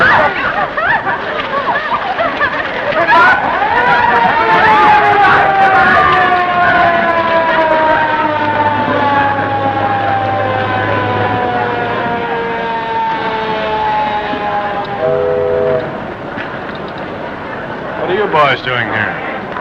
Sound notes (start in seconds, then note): 0.1 screams, merrymaking, confusion; 3.6 arriving car siren; 15.1 ship horn